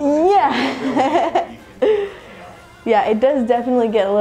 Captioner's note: laughs